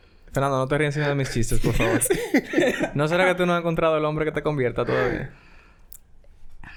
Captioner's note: laughs